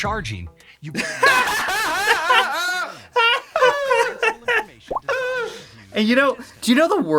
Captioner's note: both laughing at a feature no one asked for